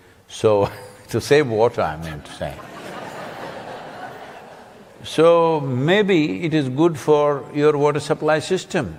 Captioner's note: laughter